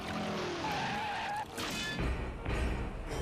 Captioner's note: tires skidding